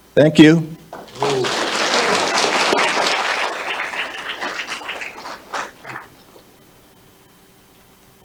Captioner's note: applause